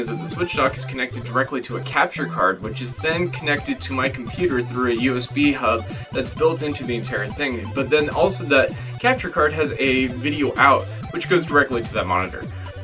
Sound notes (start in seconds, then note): none